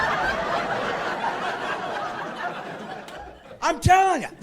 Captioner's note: laughing